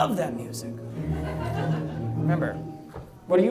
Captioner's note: audience laughs